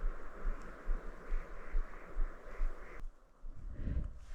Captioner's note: the sound of the ptarmigan?